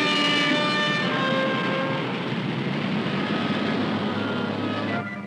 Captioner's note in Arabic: أصوات أبواق السيارات تتعالى